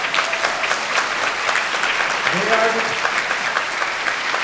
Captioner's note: everyone applauding